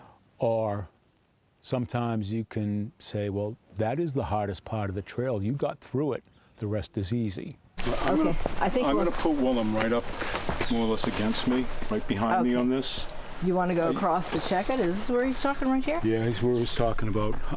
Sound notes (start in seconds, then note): 7.4 crunching footsteps